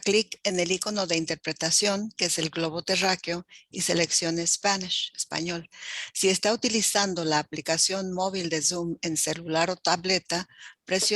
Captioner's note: spanish speaking